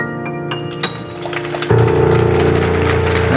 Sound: audience applauding

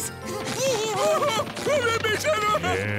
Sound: laughing; groaning

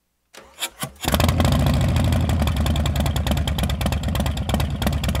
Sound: engine cranks

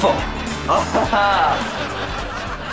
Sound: chuckles

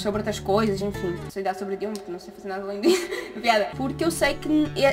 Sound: laughs

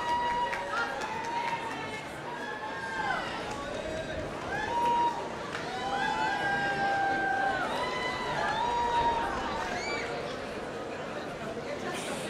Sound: applause

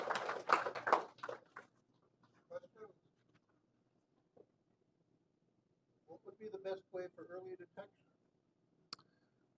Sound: applause

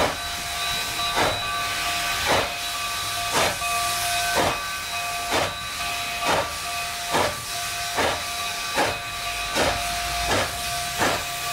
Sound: bell; chugging

